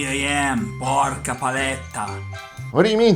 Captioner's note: cursing in Italian